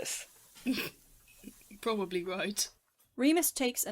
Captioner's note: snorts